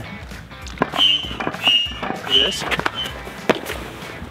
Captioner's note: air pump squeaking